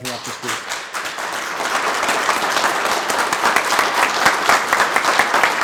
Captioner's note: group applauding